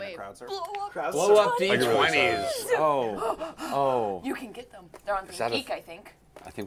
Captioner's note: gasps